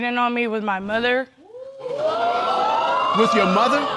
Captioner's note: audience exclaiming